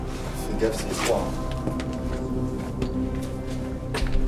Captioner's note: speaks French